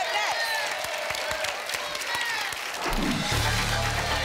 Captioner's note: applause and cheering cont